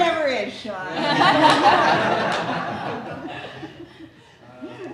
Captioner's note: audience laughing